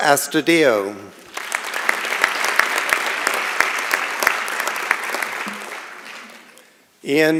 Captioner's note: applause